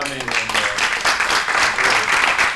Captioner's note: applause